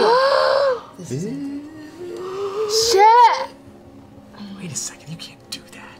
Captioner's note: whispers